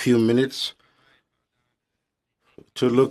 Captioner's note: speaking French